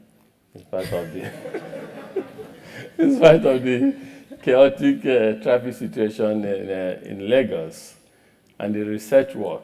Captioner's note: laugh